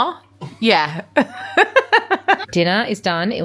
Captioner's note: laughs